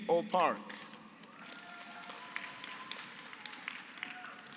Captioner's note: applause